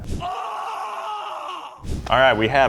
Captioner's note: man screams